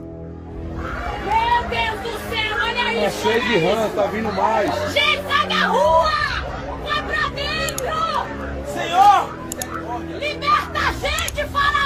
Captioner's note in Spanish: grito